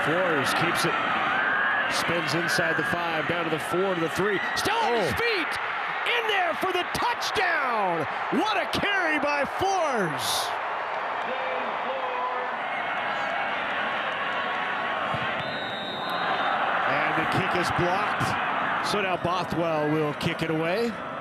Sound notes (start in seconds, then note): 4.7 fans cheer; 15.2 referee blows whistle; 15.2 fans cheer